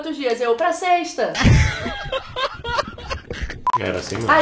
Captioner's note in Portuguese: risos